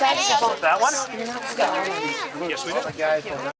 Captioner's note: indistinct chatter